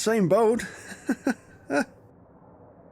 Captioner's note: nervous laughter